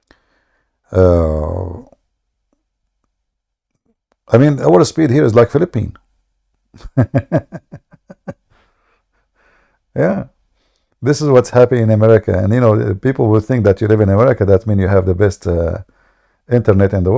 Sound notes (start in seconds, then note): 6.7 Ketawa